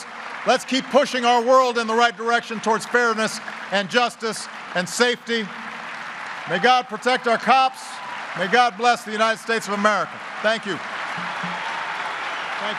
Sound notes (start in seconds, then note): 5.9 applause; 10.4 applause